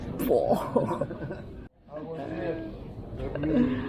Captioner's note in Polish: śmiech